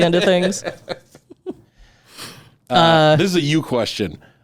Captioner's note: laughing